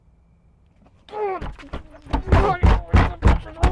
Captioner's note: grunting